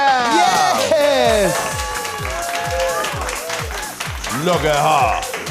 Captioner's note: audience applauding; upbeat music